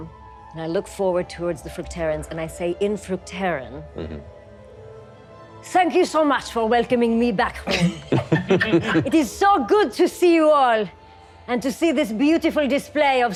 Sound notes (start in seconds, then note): 7.7 laughing